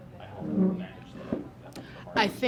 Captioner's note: sound of chair moving